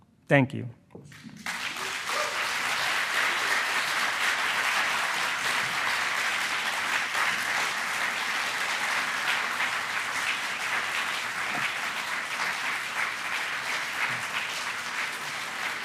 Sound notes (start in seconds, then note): 1.5 attendees applauding